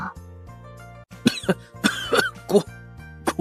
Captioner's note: cough cough